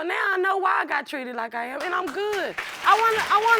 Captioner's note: audience applauding